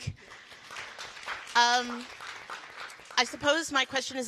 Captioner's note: all applauding